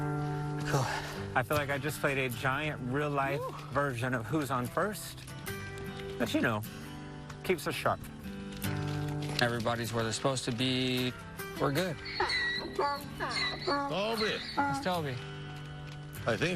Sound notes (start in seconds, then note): 11.8 donkey braying